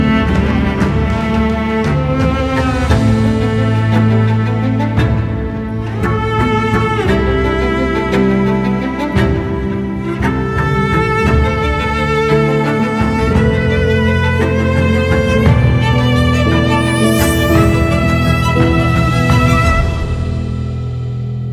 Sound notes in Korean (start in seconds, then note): 16.2 반짝이는 효과음